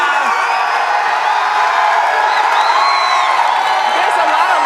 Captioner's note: cheers and applause